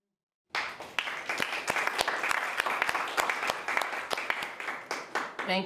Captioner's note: participants applauding